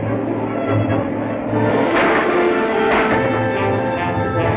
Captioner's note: gunshots